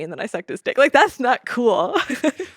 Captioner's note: laughs